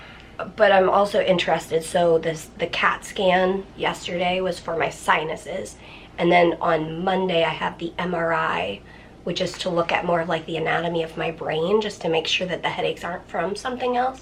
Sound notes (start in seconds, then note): none